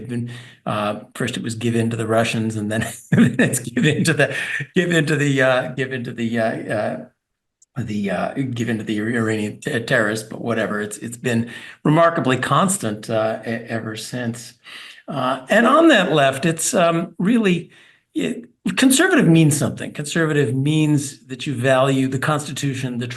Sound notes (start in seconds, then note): 7.2 laugh